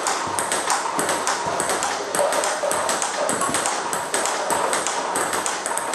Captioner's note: ball ping pong hitting continues